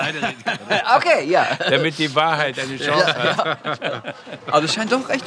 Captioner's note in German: lachend